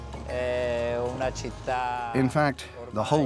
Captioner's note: Italian spoken audio